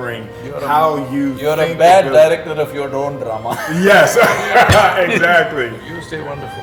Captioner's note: laughter